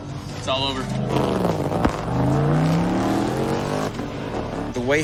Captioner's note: engine revving